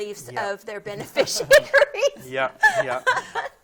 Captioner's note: laughing